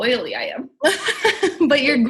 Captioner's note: laughs